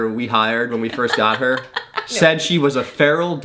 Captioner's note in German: lacht